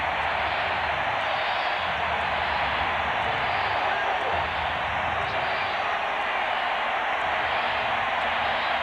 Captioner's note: cheering